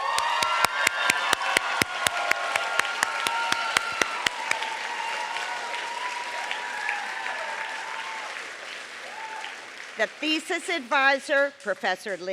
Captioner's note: applause